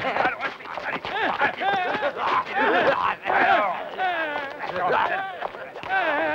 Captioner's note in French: Cris et cris étouffés